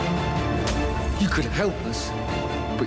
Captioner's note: dramatic music; glass shattering